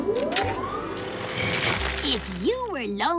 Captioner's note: hydraulic Whirring